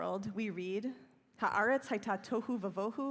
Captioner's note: speaking hebrew